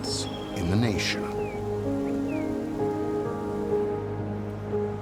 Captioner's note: birds chirping